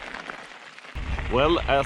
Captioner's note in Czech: Potlesk